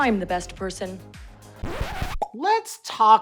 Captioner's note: record scratching